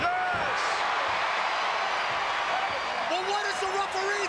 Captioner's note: crowd cheers